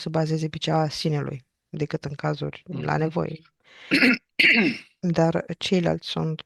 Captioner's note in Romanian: voce dreasă